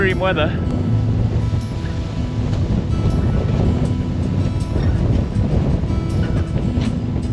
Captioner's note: string music continues; wind pattering camera